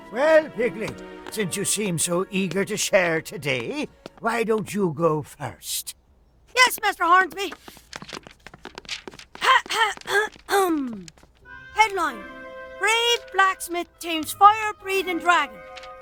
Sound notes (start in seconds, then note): 9.4 Piggley clearing throat